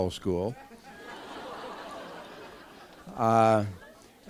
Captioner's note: laughter